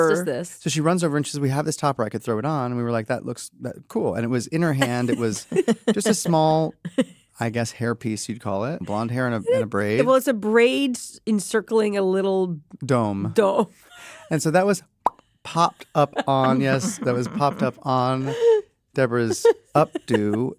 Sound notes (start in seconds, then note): 4.8 chuckle; 15.1 pops; 19.4 laughs